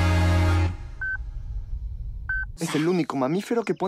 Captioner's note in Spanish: bips del satélite